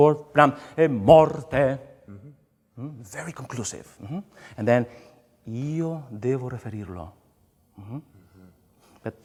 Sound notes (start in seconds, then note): 4.6 speaks in foreign language